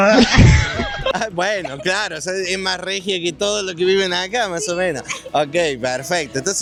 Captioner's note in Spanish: risas